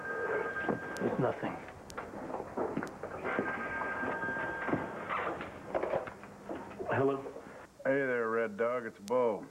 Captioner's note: telephone rings